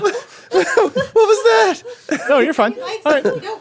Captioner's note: laughing